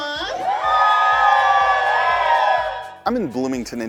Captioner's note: cheers